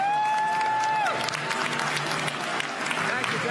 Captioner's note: applause